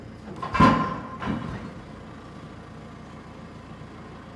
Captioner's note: metal clanking